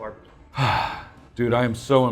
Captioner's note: sighing